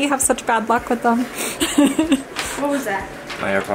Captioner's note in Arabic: تضحك